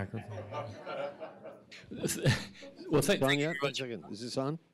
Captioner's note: audience laughs